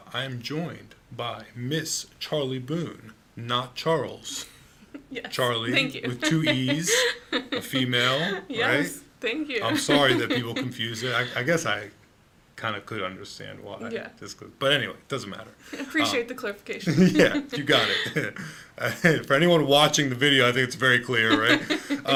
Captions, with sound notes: I am joined by Miss Charlee Bonne, not Charles. - (laughing) Yes. - Charlee with two Es, a female, right? - Yes, thank you. - I'm sorry that people confuse it. I guess I kind of could understand why. But anyway, doesn't matter. - Appreciate the clarification. (laughs) - Yeah, you got it. (chucking) If anyone watching the video, I think it's very clear, right?